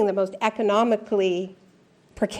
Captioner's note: none